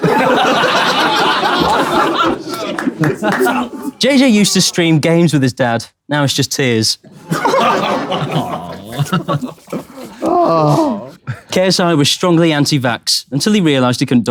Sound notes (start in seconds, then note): 0.0 people in room laughing; 7.1 people in room chuckling; 9.9 KSI sighs